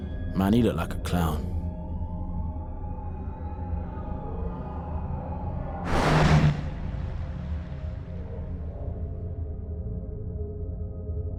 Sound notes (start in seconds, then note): 2.9 police sirens in the distance